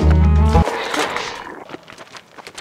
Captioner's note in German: Alien-Geräusche